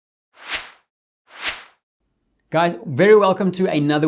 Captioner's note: logo whooshing